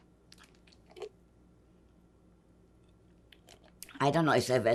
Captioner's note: drinking